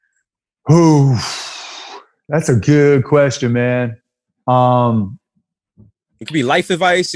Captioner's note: exhales loudly